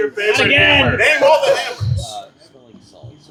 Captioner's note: laughing